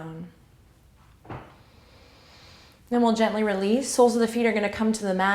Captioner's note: inhale